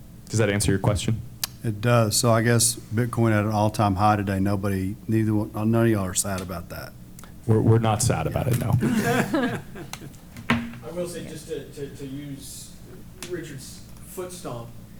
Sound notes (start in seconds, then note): 8.7 laughter